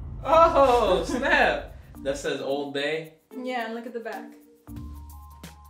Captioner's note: none